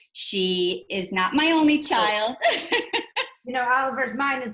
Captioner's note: laughs